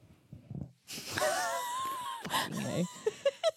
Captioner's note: laughs